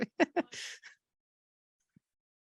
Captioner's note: laughs